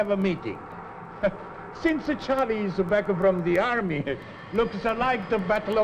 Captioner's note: chuckles